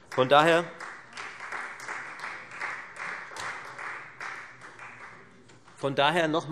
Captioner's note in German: Beifall Freie Demokraten